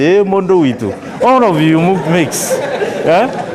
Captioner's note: laughter